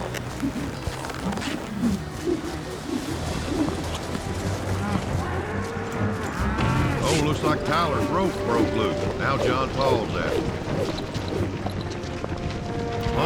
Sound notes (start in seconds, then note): 0.1 suspense music; 4.3 bull mooing